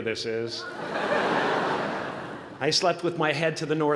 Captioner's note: laughter